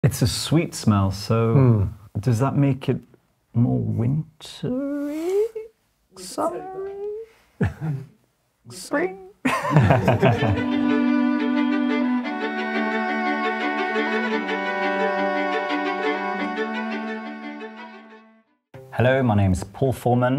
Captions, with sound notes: It's a sweet smell, so does that make it more wintery? Summery? Spring? [Laughter] Hello, my name's Paul Forman.